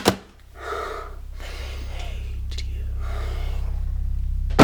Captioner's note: slamming on the keyboard and sighing; A low voice whispers; clattering sound